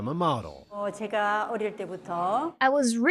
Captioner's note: speaking Korean